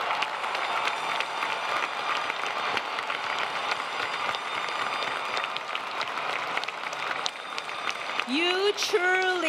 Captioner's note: applause